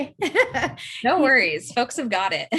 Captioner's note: chuckle